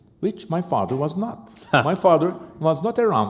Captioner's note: chuckle